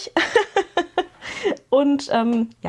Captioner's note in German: gelächter